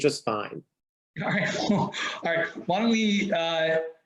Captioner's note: laughs